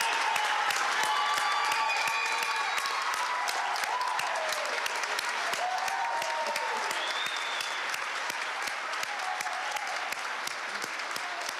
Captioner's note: applause